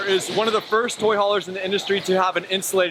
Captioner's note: none